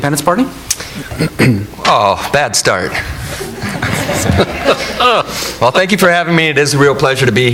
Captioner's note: laughs